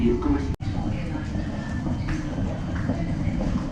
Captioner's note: people chattering